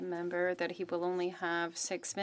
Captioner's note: speaking French